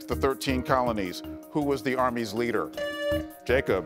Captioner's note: buzzer beeps